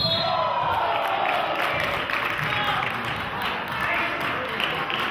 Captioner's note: whistle blows; clapping